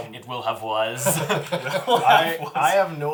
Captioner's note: all laugh